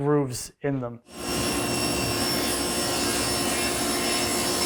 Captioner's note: driller whirring